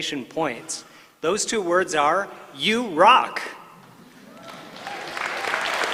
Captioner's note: applause